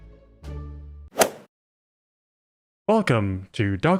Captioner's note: golf ball hit sound